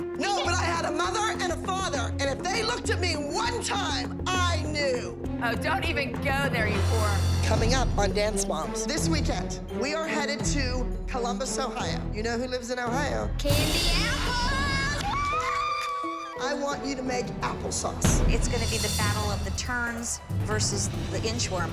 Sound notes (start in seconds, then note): 14.4 applause and cheering